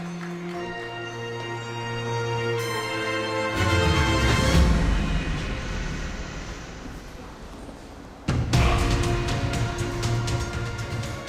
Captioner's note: audience applauds; dramatic music